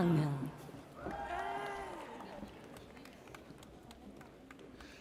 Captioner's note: audience cheers